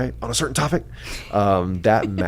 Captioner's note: laughs